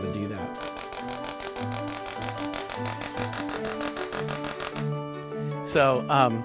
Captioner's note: Tesla coil zapping